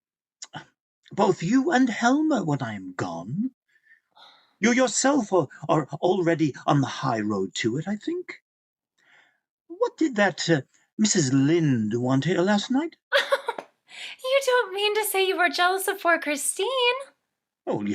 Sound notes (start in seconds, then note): 13.2 laughing